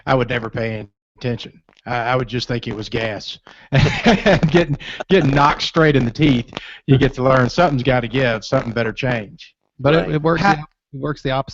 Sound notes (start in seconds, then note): 3.7 laughter